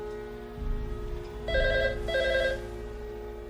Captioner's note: telephone rings